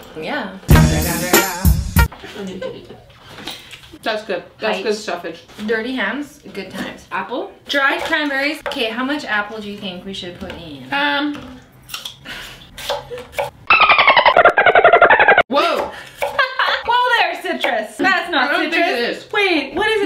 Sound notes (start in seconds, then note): 0.7 hip-hop music; 13.7 dolphin squeaks; 16.5 laughs